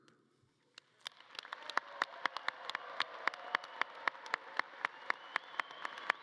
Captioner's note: audience cheering and clapping